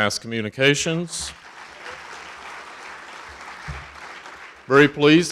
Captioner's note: audience applauding